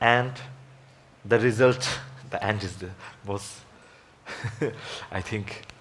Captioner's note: laughs